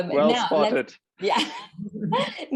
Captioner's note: moderator laughs